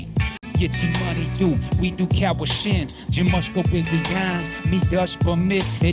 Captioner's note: raping in Ojibwe